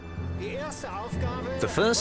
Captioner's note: speaking German